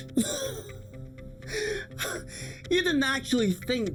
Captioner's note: Eric laughing